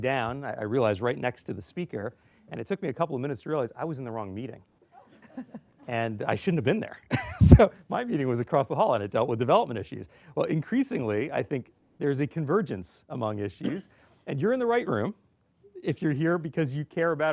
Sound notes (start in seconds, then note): 5.0 laughter